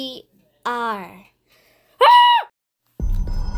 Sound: screaming

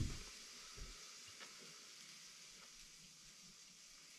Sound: knocking

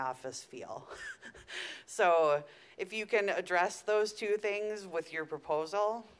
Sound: laughing

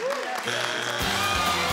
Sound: audience cheers; machine buzzes; upbeat music

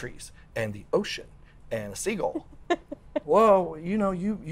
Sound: laughs

